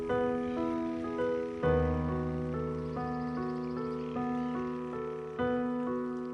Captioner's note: wildlife chatters